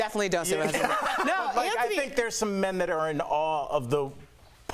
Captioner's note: laughter